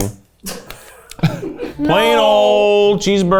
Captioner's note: all chuckle